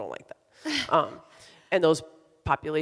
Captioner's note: laughs